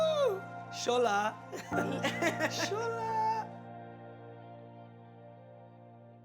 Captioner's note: speaking foreign language